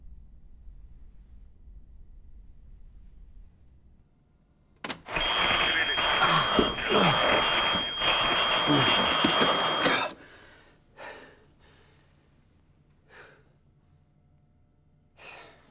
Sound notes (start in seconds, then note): 4.4 distorted voice recording; 4.9 loud static; 5.6 gasps; 13.0 exhales